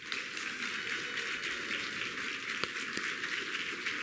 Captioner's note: applause